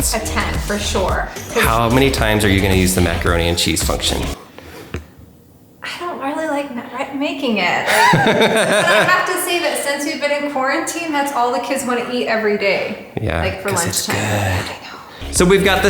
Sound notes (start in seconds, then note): 7.8 laughing